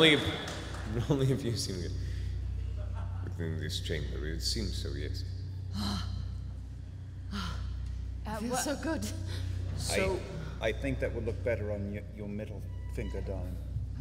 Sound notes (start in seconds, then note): 5.7 sighs